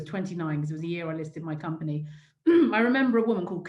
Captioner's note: clears throat